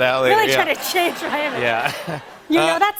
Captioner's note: laughter